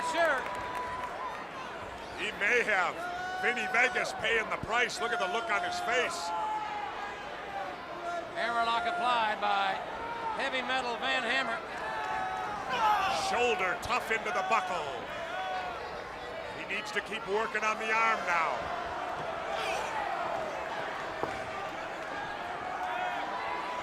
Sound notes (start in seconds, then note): 6.8 crowd chatter; 18.9 crowd cheering